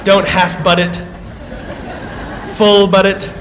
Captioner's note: laughter